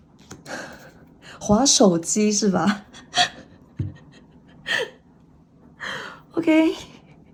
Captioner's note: laughs